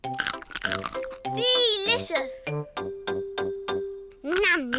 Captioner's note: crunches